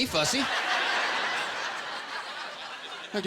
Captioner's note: laughter